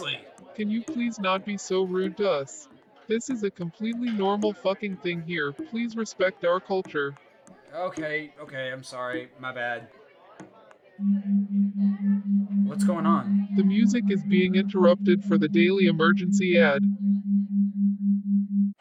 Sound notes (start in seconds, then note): 11.0 beeps from speakers; 17.5 still beeping